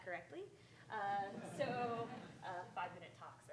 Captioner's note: audience laughing